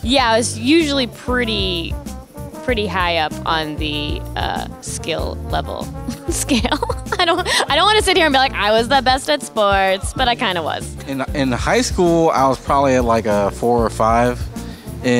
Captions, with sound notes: - Yeah I was usually pretty high up on the skill level scale. (laughs) I don't wanna sit here and be like "I was the best at sports," but I kinda was. - In high school I was probably like a 4 or 5.